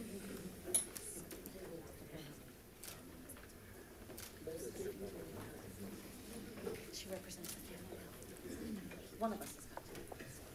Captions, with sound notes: (camera shutter clicks) - She represents one of us, one of us is popular.